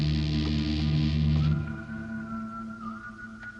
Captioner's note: man whistling